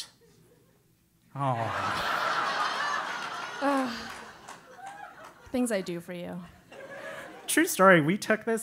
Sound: laugh; applause

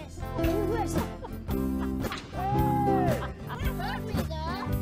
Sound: laughter

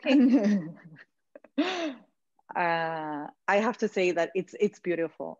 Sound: all laughing

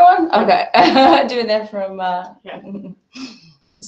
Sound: chuckles

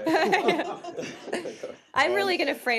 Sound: laughter

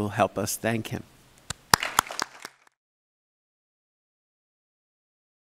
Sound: audience applauding

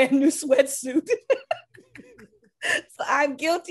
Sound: laughs

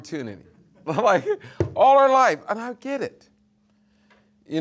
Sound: hand slamming

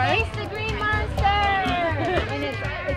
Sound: laughter

